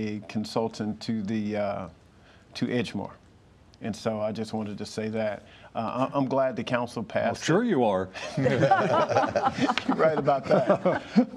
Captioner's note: laughter